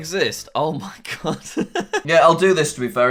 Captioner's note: laughs